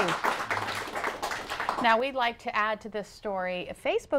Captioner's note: applause